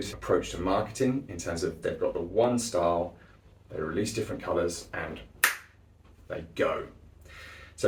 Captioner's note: snap